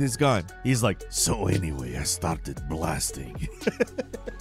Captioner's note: laughs